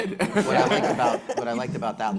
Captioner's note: panelists laughing